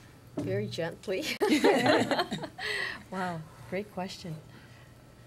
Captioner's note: laughter